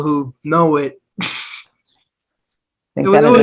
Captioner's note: chuckles